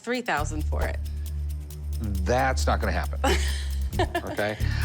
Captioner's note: laughs